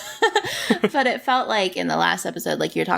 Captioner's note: laughs